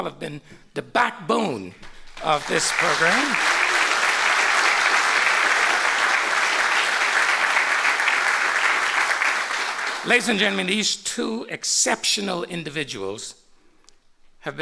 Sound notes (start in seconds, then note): 2.0 applause